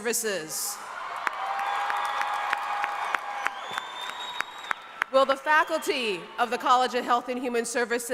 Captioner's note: cheering and applause